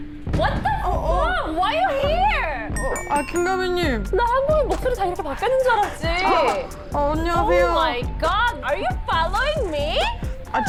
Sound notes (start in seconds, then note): 2.8 somehow familiar sound effect